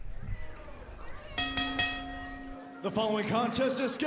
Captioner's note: bell ringing